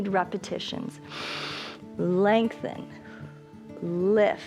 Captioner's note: inhales